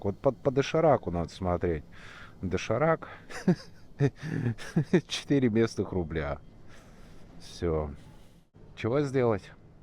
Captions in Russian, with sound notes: Вот по дошираку надо смотреть. Доширак… [смех] Четыре местных рубля. Всё… Чего сделать?